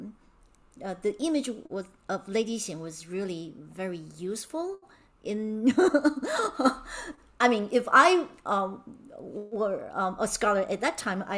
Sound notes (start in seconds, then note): 5.8 laughing